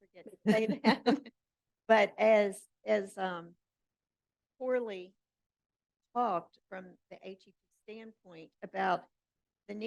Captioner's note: chuckles